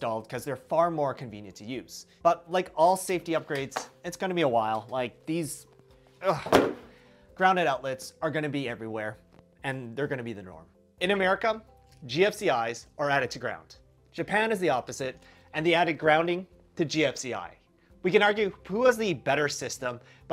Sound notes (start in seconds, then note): 6.3 uhhhhh